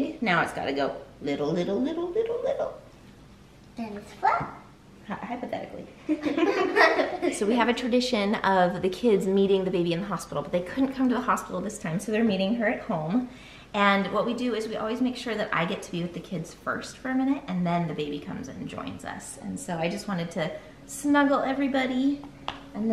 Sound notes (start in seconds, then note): 6.0 laughter